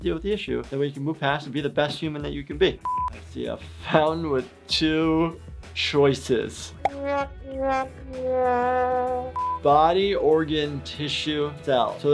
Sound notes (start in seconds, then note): 2.8 high pitch beep; 7.0 sad horn playing